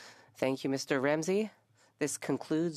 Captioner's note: speaking French